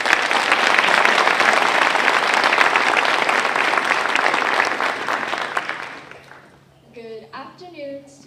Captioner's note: applause